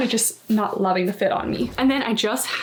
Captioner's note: graphic whooshing